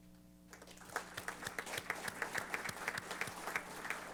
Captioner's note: applause